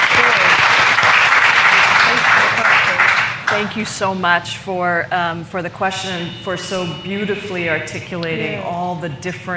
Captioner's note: applause